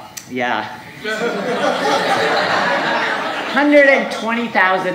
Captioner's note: audience laughing